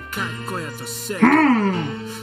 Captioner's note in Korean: 흐음!